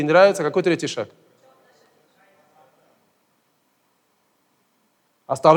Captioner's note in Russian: голоса из зала